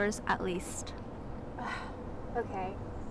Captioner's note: sighing